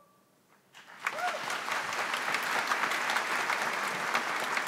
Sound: audience applauds

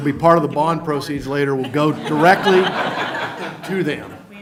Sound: laughter

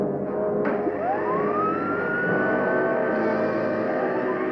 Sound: machine whirring

